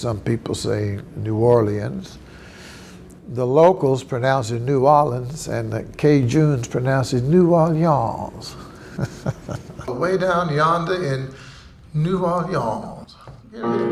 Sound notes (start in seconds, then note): 8.5 chuckles; 13.5 bright piano music